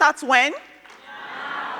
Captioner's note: crowd